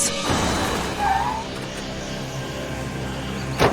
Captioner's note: tires screech